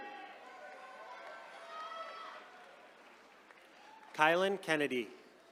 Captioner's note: attendees cheering